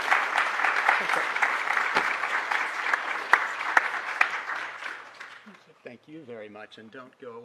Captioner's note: applause